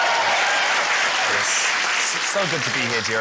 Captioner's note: cheering, applause